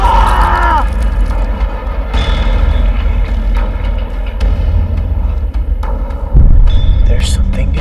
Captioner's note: screams; groaning